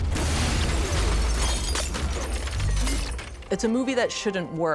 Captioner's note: glass shatters